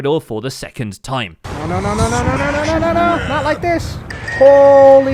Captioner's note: dungeon Noises